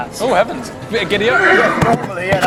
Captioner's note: horse neighs